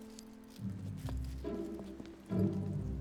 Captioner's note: footsteps